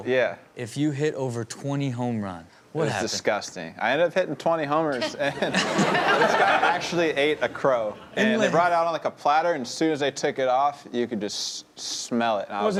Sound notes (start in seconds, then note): 5.0 audience laughs